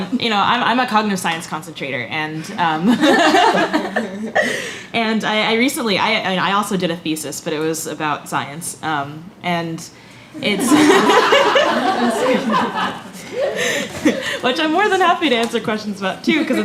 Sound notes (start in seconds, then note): 2.9 laughs; 10.5 laughter